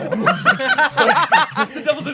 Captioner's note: gobbles; group laughing